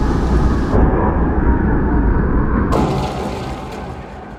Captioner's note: creature snarling